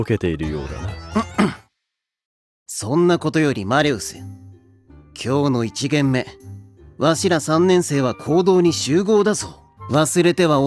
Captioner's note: clears throat